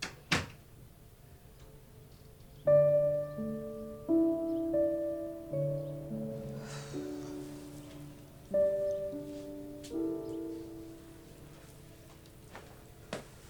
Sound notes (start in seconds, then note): 0.0 door clicking shut; 2.1 birds chirping; 2.6 sentimental music; 6.5 Diane sighing